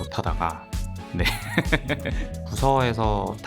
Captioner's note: laughter